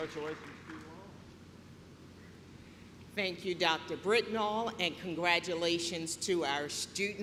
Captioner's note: clapping